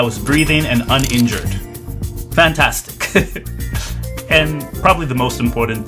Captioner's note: laughs